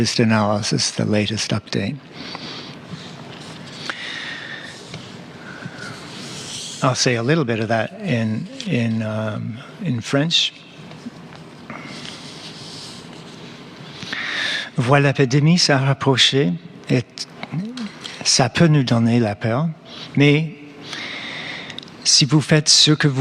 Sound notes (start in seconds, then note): 8.3 speaking French